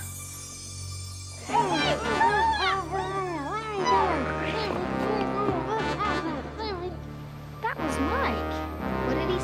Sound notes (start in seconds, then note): 1.8 grunting; 1.8 yelling